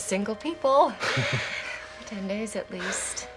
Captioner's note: sighs; both chuckle nervously